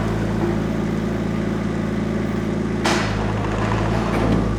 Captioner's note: engine rumbling